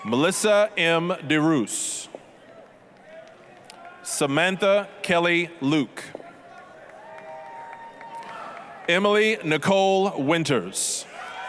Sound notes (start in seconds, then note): 2.5 applause; 6.4 applause, cheering; 11.2 applause, cheering